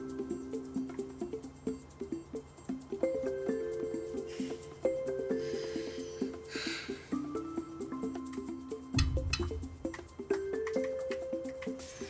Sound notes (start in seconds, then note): 6.4 sighs